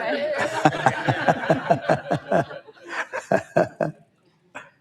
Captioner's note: audience laughs